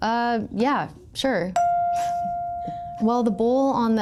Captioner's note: chime pings